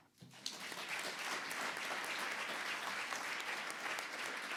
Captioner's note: audience applauding